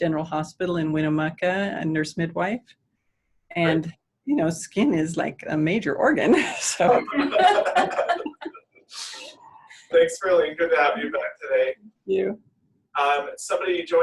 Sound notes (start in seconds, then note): 6.3 laughter